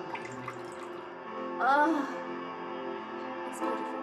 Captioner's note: moaning